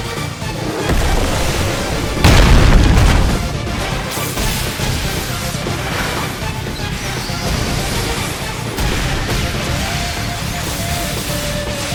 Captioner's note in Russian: Звуки избиения